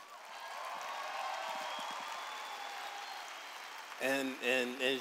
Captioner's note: applause